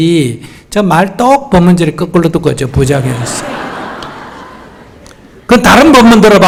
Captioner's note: audience Laughter